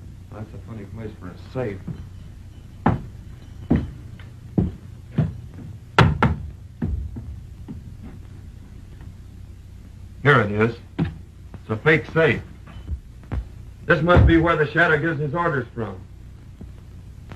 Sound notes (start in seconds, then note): 3.2 footsteps; 5.9 knocking on wall